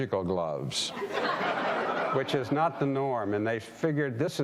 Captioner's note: audience laughing